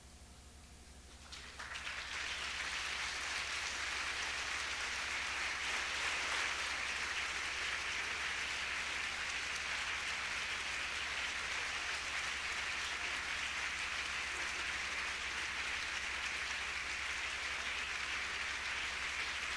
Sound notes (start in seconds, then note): 1.1 applause